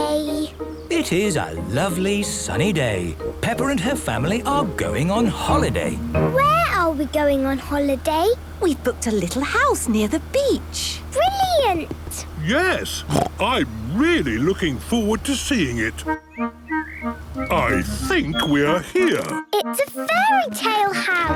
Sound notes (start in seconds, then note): 13.0 snort